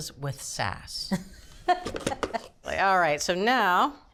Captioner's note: laughing